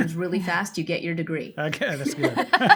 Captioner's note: laughs